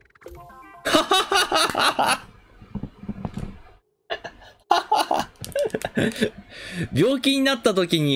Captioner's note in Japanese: 笑い声